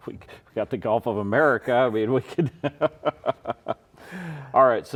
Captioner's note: laughs